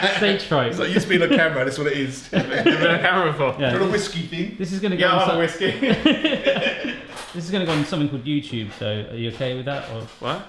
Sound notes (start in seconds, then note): 0.0 laughs; 6.6 all laughing